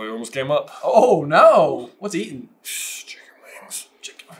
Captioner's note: whisper